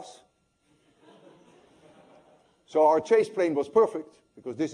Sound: laughter

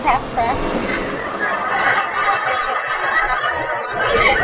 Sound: audience laughs

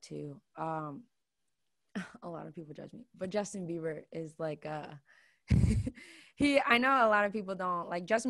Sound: laughs

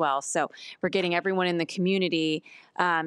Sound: none

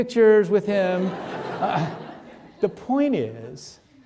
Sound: audience laughing

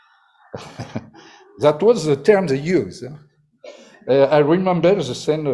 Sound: laughs

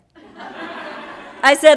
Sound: audience laughing

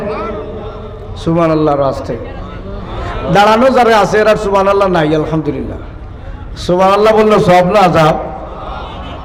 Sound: audience responds

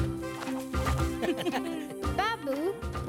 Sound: laughing

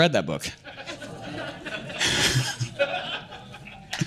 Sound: laughter

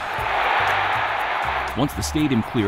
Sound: crowd cheers

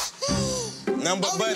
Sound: gasping

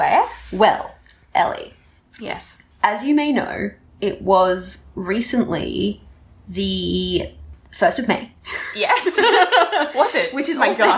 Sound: laughter

